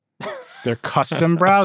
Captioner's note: laughing